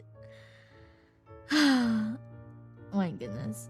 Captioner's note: sigh